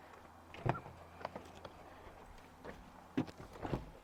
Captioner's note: door opens